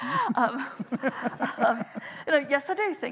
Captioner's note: laughing